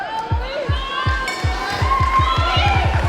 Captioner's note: bell